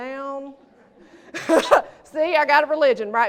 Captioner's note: laughter